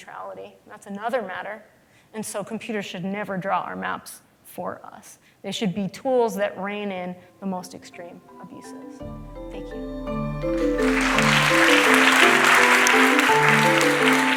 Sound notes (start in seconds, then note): 10.5 applause